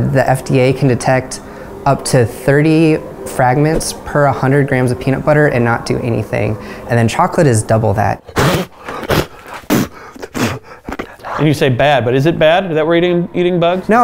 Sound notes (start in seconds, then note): 8.3 gagging and spitting